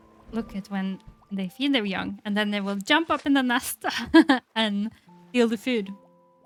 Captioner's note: laughs